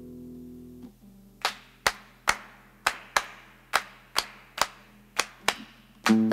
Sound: clapping

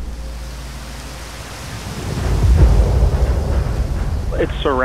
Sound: rain falling and thunder rumbling

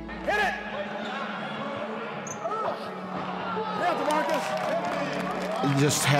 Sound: general chatter

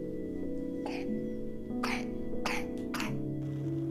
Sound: more coughing

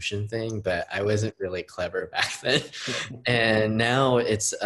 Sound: host laughing; laughing

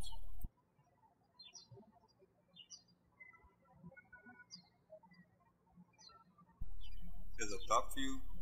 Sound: birds chirping

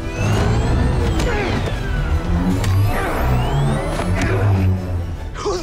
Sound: grunting

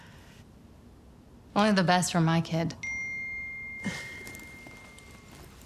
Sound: phone dings

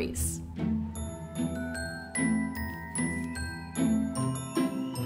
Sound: gently chiming bells

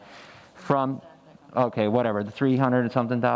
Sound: faintly speaking

